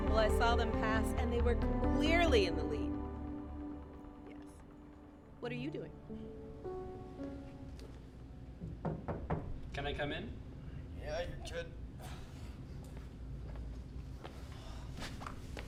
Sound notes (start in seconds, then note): 8.6 knocks